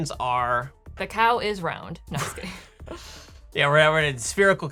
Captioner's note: laughing